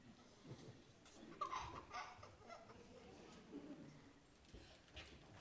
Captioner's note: child giggling